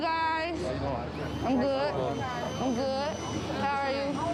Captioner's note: group chattering